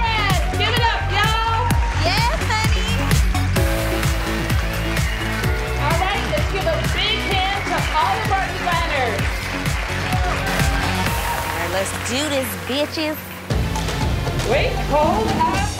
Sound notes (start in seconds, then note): 3.0 applaud; 3.0 upbeat music; 9.4 cheer and applaud; 13.5 dramatic music